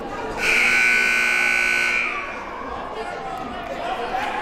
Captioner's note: buzzer blares